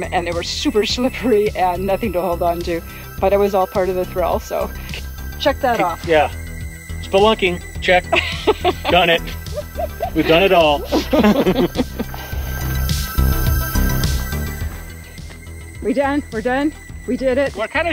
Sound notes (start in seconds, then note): 8.1 laughter